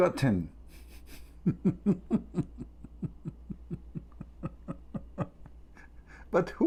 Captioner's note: Ketawa